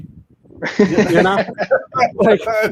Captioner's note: all laughing